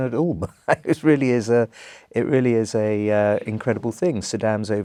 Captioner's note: laugh